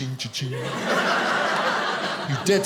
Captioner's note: audience laughing